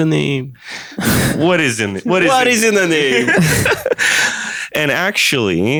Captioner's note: laughter